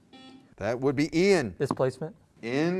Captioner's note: buzzer